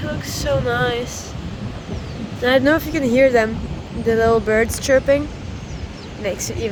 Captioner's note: birds chirping